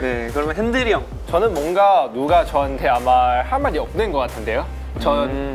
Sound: confident

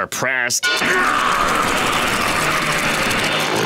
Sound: roaring

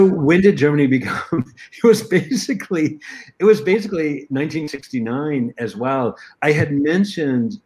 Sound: laughter

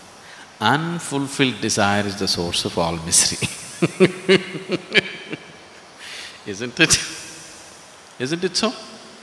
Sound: laughs

